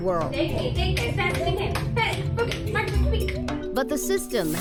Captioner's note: yelling excitedly